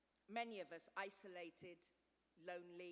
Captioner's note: none